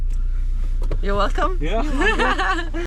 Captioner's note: laughing